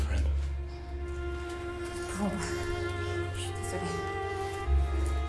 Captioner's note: Ellie speaks in French